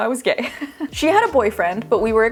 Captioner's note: chuckling